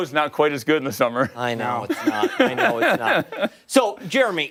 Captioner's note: laughter